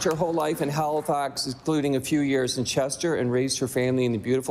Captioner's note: applause